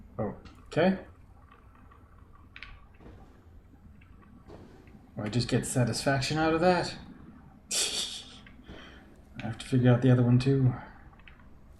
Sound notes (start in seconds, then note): 8.6 titters